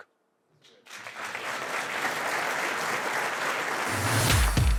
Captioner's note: audience applause